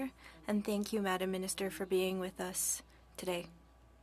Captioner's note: speaking French